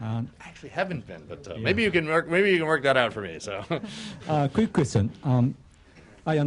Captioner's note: laughter